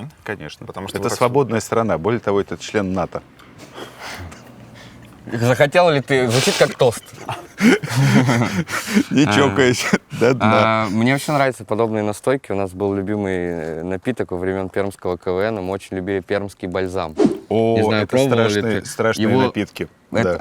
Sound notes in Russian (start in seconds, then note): 3.6 тихо смеётся; 6.9 смеются